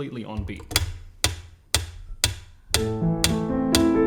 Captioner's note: metronome ticks